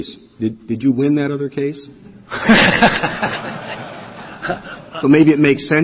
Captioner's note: laughter